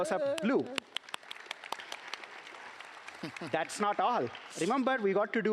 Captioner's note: applause